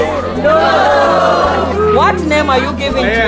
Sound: crowd

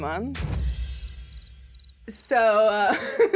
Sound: crickets chirping; laughs

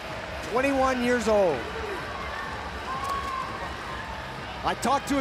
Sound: audience cheering

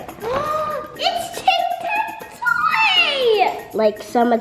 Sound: gasps

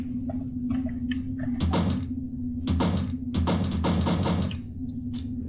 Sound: slamming the cabinet doors repeatedly

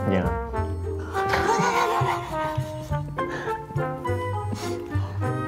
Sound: they all laugh

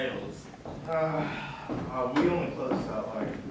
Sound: sighs

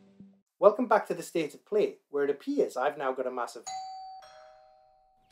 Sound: ding dong

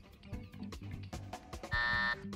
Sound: buzzer

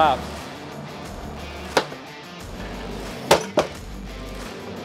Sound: machine continues

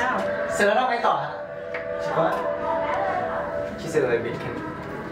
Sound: speaking Thai; responding in Thai

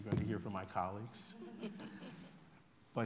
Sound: laughter

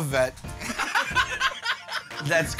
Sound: laughter

